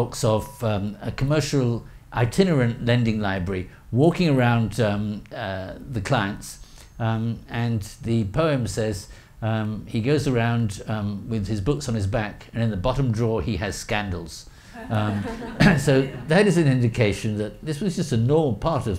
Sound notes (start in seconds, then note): 14.8 audience laughing